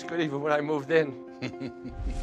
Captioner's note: chuckles